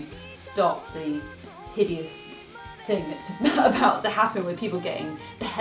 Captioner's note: laughs